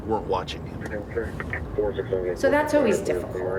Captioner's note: chatter on radio